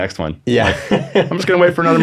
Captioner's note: laughing